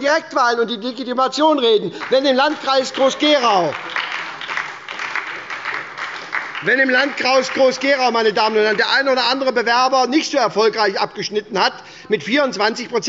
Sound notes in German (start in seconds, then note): 1.9 Beifall bei der SPD